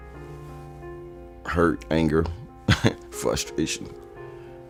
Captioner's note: chuckles